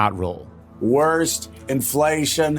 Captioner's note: soundbite of archived recording